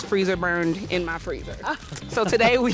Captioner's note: laughter